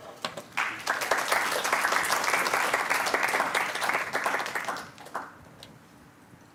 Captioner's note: applause